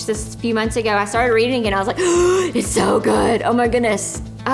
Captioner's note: gasp